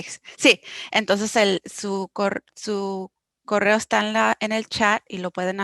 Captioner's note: speaking foreign language